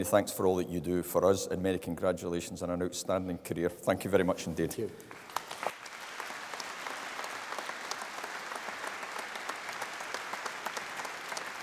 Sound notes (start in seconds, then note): 5.0 applause